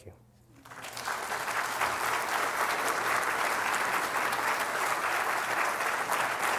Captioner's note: applause